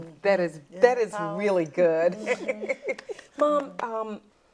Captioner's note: laughs